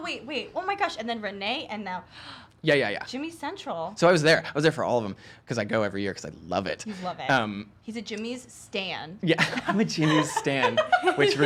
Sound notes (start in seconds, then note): 2.3 gasping